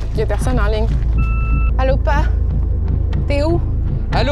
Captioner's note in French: bip de boîte vocale